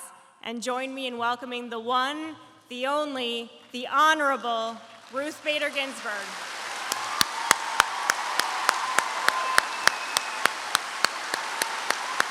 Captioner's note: applause